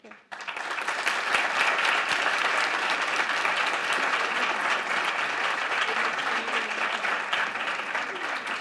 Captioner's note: applause